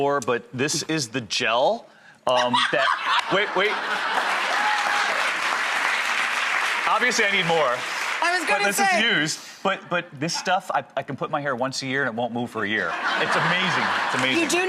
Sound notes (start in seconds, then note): 2.3 laughing; 3.1 audience clapping